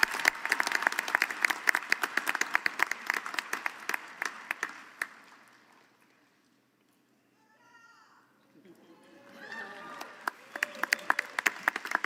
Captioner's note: applause